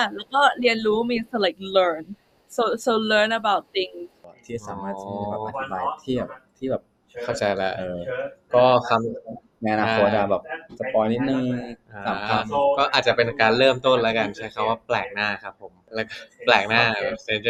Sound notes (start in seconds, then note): 5.3 explaining to JJ in Thai; 14.2 answering in Thai